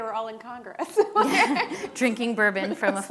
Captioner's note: laughing